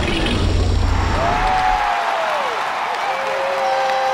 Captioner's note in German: Jubelnde Menge